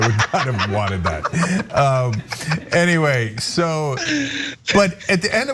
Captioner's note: laugh